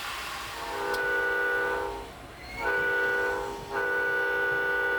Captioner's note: train whistle blaring